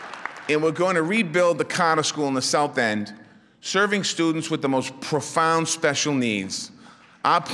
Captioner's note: applause